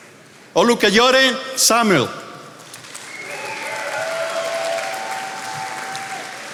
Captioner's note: attendees applauding